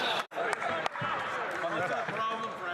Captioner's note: laughter